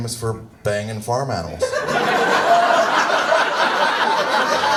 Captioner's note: audience laughs